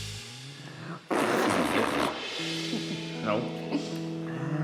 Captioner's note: blows raspberry